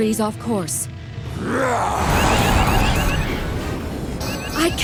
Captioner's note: monster roaring